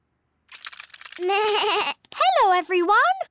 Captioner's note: bleats